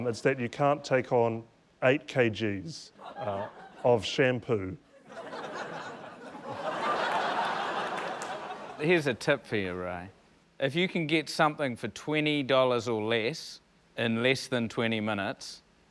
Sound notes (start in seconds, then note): 4.9 laughter